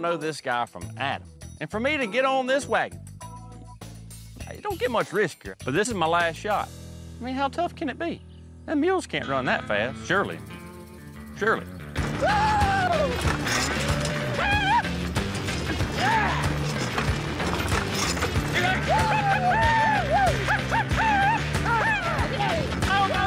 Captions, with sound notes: I DON'T KNOW THIS GUY FROM ADAM. AND FOR ME TO GET ON THIS WAGON, IT DON'T GET MUCH RISKIER. BUT THIS IS MY LAST SHOT. I MEAN, HOW TOUGH CAN IT BE? THEM MULES CAN'T RUN THAT FAST, SURELY. SURELY. WHOOO!! [FAST HOOF BEATS] HIYAH!!! YEAH!!! [FAST HOOF BEATS] GIDDUP! WHOO! HUP! HUP!